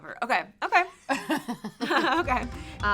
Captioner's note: laughs